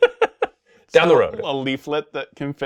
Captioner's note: laughing